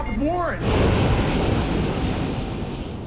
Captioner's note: drone taking off